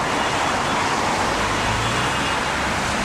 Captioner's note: loud Traffic Noises